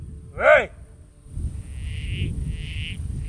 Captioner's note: sound of frog call